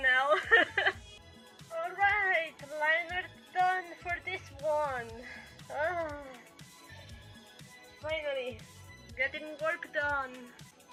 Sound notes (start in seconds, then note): 0.2 laugh; 5.8 groan